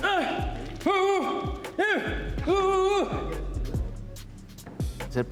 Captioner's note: gruñe